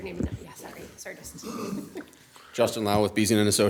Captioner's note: chuckles